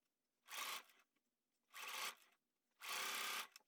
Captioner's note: sewing machine sounds